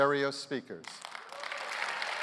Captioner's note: applause